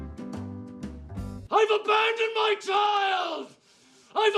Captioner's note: voiceover